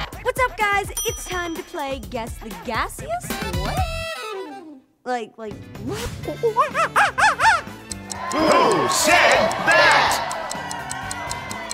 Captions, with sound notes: What's up, guys? It's time to play Guess the Gassiest... what? Like, like... [monkey sounds] Who said that?